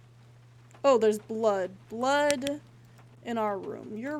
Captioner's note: flashlight Clicks Off